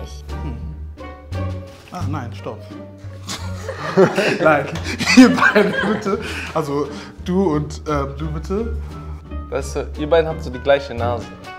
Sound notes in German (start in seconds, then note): 0.3 Abwartende Musik; 3.9 lachend